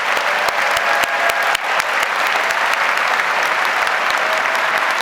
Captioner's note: audience applauds